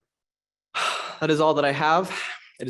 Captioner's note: sighs